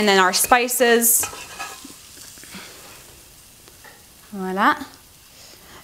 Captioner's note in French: Kitchen Noise